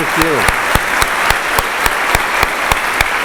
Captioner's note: applause